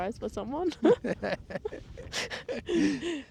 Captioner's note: laughing